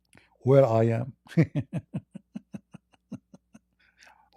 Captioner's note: Ketawa